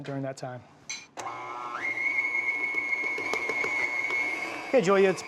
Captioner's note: mixer whirring